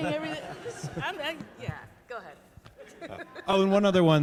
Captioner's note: laughs